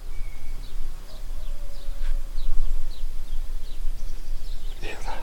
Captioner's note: distant howl